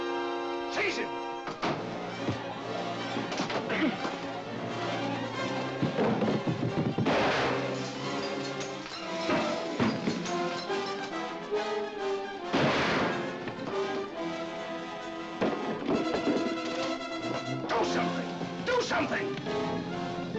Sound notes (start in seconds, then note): 1.2 suspenseful music; 7.0 gunshot; 8.9 lamp shatters; 10.5 suspenseful music; 12.5 gunshot; 14.1 suspenseful music; 15.4 thump; 20.1 suspenseful music